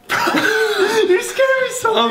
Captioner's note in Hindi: हंसी